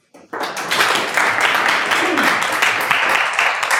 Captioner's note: audience applauds